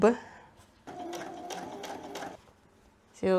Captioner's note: sewing machine noises